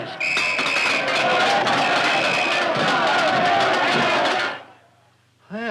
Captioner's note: whistle blowing; cups rattling